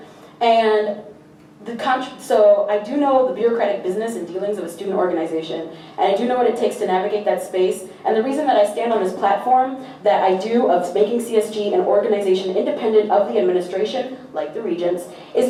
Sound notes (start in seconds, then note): none